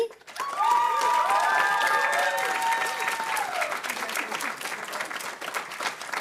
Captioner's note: audience cheering and applauding